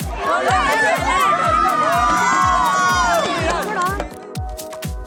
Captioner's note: cheers